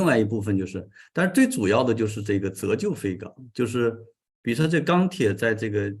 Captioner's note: continues to speak in Chinese